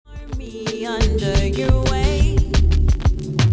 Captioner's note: static